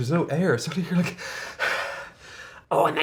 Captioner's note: gasps